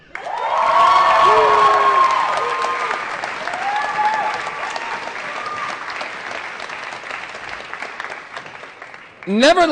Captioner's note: applause & Cheering